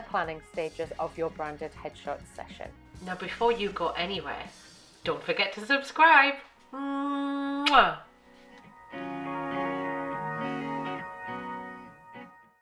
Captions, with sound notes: planning stages of your branded headshot session. Now before you go anywhere, don't forget to subscribe. (blowing kiss) (gentle music)